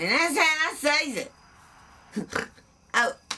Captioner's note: snorts